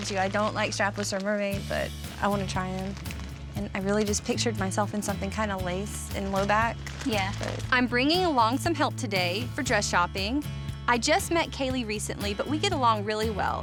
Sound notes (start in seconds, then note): none